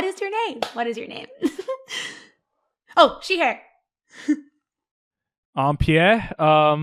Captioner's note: laughs